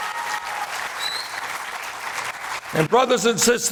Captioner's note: applause